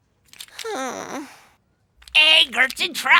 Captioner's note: sighing